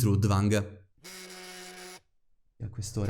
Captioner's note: phone rings